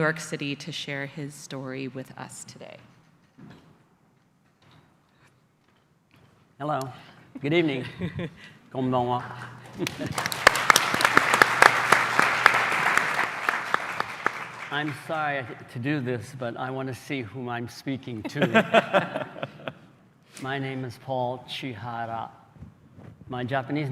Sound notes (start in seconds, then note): 8.0 applause; 8.0 speaking japanese